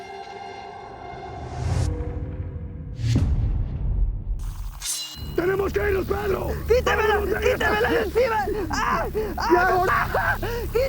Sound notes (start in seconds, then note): 5.0 shouting in spanish; 6.6 screaming